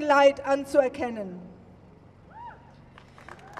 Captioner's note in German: Applaus